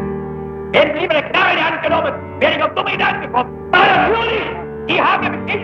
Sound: German spoken audio

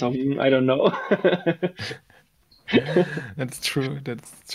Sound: both laugh

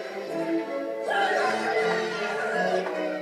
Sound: cheering

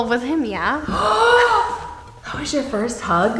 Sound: gasps

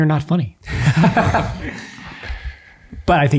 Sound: all laughing

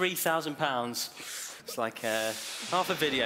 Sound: whooshing

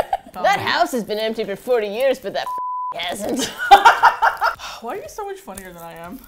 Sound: laughs; laughs

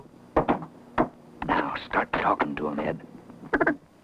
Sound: duck call

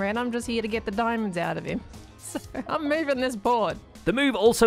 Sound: chuckles

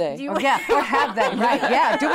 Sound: laughs

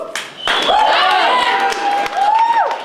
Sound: cheers and applause

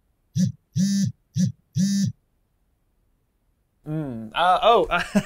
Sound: phone ringing; phone buzzing

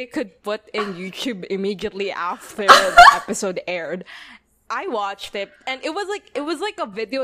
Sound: laughs

